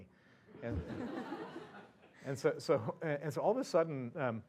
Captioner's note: laugh